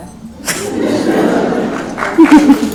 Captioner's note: laughs; applause